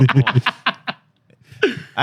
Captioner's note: laughing